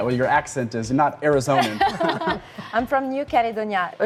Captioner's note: both laughing